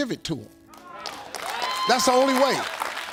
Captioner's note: audience clapping